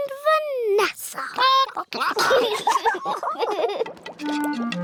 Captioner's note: children giggle; chickens chatter